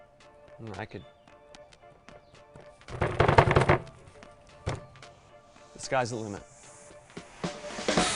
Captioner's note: pounds on it